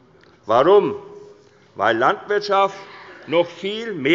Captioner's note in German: none